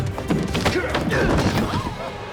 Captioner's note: grunting